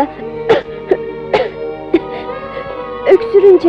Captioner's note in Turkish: Öksürükler